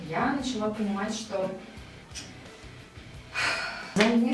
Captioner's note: existential crisis sigh